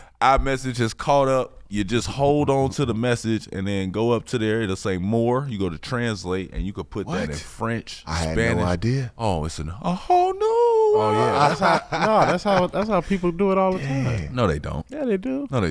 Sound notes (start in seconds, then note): 10.6 laughing